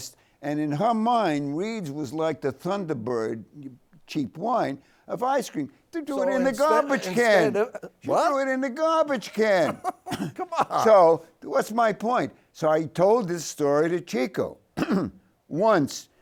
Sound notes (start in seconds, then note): 9.1 laughs